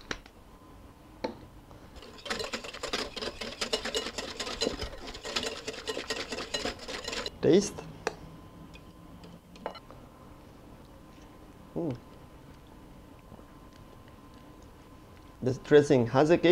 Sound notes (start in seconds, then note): 1.9 whisking sounds